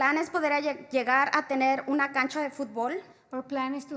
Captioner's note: spanish